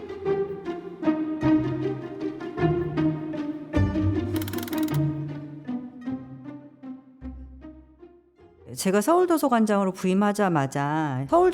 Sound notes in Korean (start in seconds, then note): 4.3 드르륵거리는 효과음